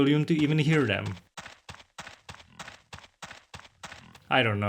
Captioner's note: feetsies doing steps